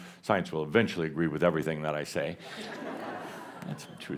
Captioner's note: laughter